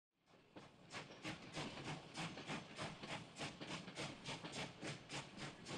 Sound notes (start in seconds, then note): 0.3 engine chugging